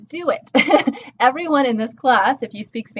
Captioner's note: laughing